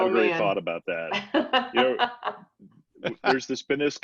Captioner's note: laughs